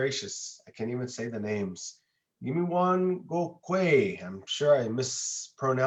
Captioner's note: speaks an indigenous language